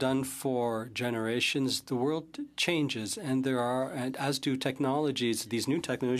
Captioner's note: speaking French